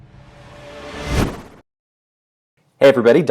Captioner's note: whooshing